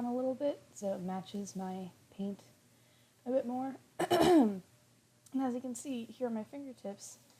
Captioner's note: clears throat